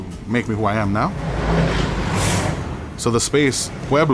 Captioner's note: car drives